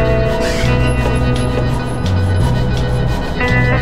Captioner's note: hydraulic whirs